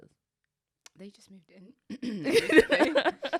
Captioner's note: laughing; clears throat